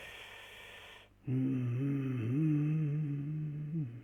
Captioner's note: hums strangely